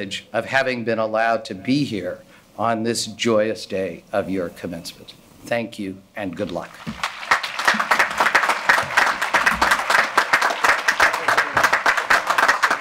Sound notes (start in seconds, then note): 6.7 audience applauding